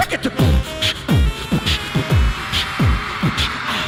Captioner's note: beatboxing